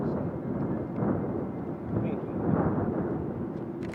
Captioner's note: wind blows